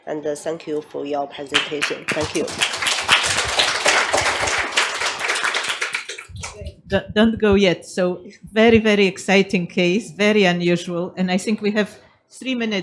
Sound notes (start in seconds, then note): 3.2 audience applauds